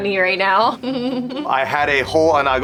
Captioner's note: giggles